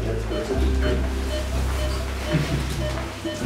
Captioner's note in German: Schnelles Piepen